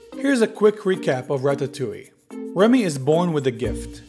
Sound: voiceover

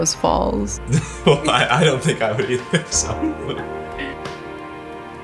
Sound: chuckles

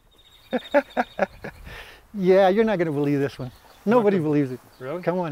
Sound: laughs

